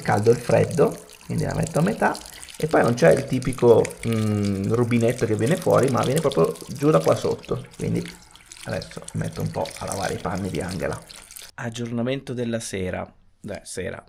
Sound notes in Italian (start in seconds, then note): none